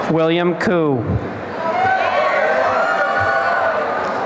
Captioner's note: applause and cheering